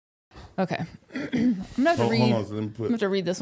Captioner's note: clears throat